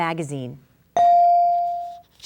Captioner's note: bell dinging